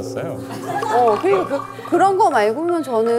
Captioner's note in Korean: ㅋㅋ